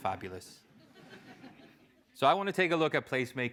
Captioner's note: laugh